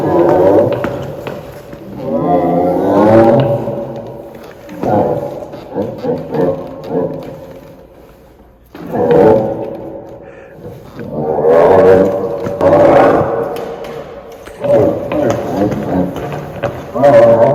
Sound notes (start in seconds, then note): 1.9 roar; 11.0 roars and vocalizations